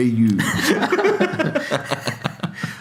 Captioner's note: laughing